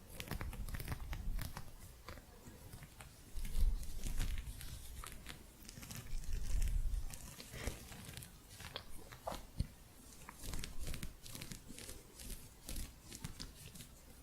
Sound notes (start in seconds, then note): 0.0 gentle scratching